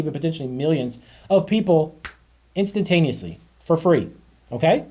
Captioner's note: snaps fingers